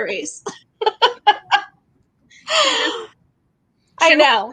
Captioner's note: laughing